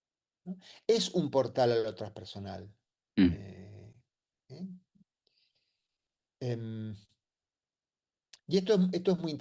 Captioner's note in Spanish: carraspeo